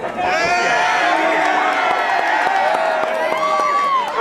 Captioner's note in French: cris et applaudissements